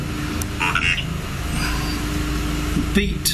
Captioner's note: electronic voice